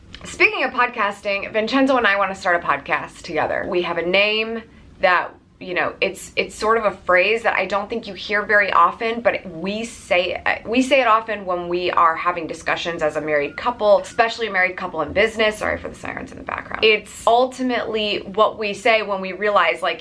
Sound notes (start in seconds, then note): 15.4 sirens wailing